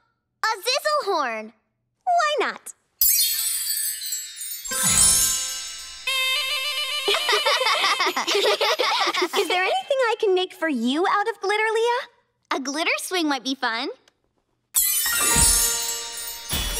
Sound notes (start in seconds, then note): 6.8 laughter; 14.8 shimmering tone